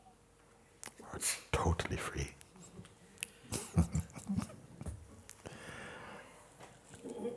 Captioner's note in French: rires